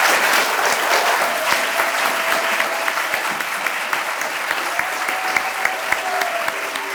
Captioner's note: audience applauding; audience cheering